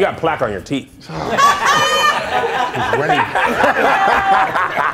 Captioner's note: laughing